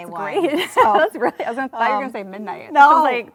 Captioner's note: laughs